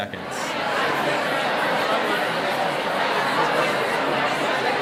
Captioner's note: background talking